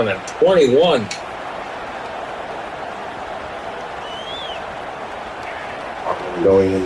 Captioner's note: crowd Noises